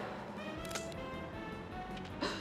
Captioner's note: gun cocking; gasps